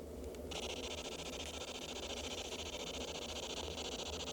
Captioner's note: static crackling